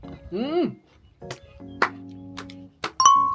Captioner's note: applause